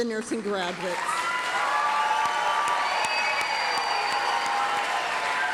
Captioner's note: applause, cheering